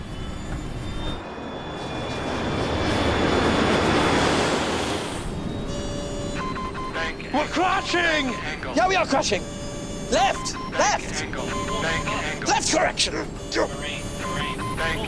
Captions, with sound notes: (airplane engine roaring) (alarm beeping) - [Recorded voice] Bank angle. - We're crushing! - [Recorded Voice] Bank angle. - Yeah, we are crushing! - Left, left. - [Recorded Voice] Bank angle, bank angle. - Left correction.